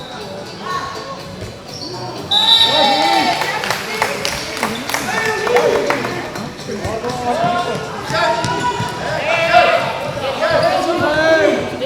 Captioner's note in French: Applaudissements